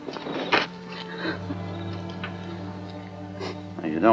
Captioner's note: crying